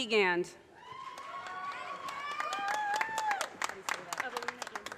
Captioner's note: audience cheers and applause